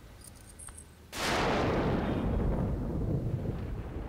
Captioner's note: Thunder